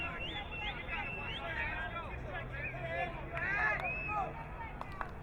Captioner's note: crowd member whistling